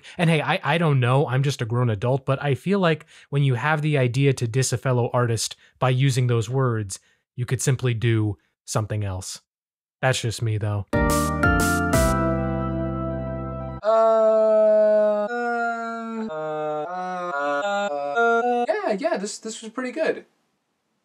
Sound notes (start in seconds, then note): 10.9 upbeat music plays; 14.1 bored sound effect